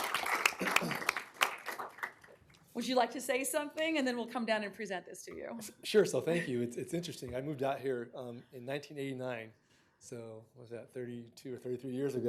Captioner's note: applause